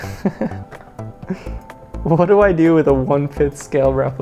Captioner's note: chuckles